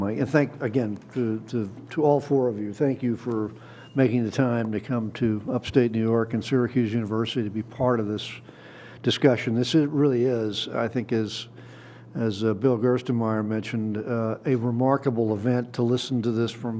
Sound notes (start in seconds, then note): none